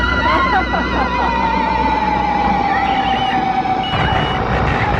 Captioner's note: laughs; mechanical buzzing